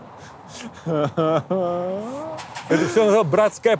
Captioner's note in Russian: Дудь смеётся, умирая